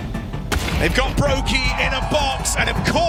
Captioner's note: audience cheering